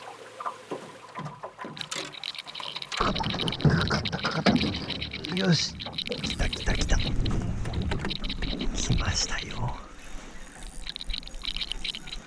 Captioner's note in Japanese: 魚が暴れる音